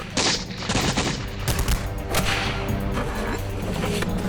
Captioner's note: gunshots firing